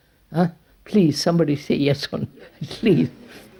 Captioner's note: laughs